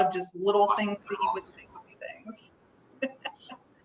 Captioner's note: laughs